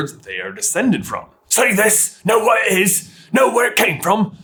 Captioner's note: snooty yet trash voice